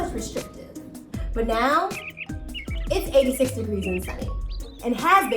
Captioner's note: birds chirp